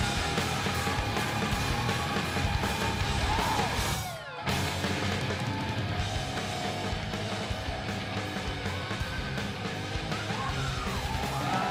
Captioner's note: crowd cheering